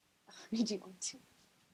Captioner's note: laughing whisper